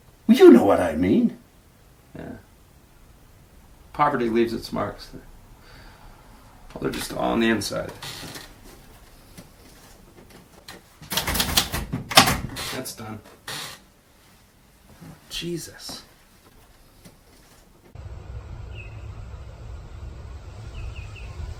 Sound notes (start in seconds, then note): 11.3 keys clacking; 18.6 birds chirping